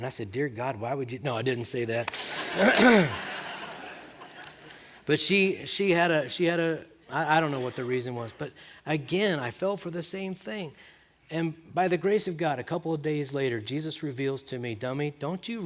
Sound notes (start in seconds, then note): 2.1 laughter